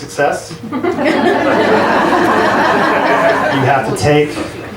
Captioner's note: audience laughs